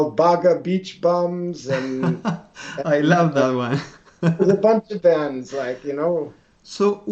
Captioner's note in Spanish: Risas